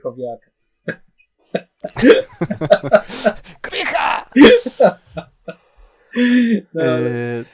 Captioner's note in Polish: śmiech